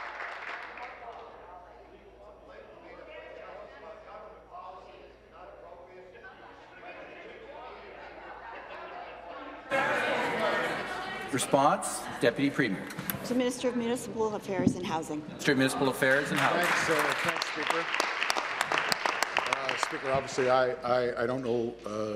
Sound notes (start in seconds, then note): 0.0 applause; 7.3 conversation din